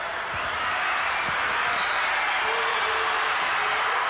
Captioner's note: crowd cheering